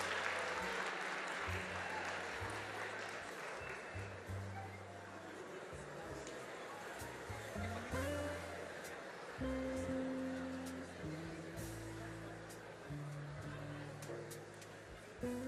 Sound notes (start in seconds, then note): 2.6 applause